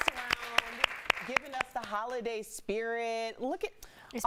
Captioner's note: applause